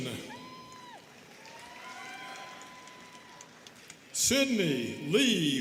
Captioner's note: students cheering and clapping